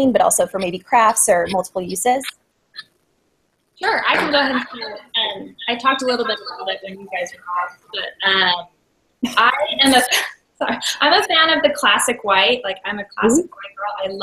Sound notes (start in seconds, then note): 9.3 laughs